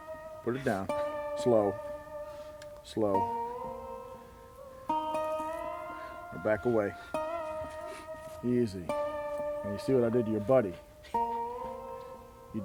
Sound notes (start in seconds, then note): 3.8 calming guitar; 6.9 sniffling and shuffling; 10.8 whimpering